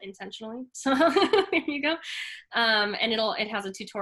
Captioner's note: laughs